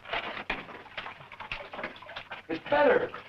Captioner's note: water splashing